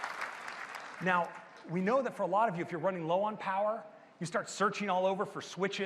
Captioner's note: applause